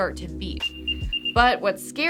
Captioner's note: AirTag beeping